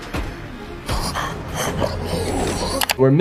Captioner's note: ominous music; villain grunts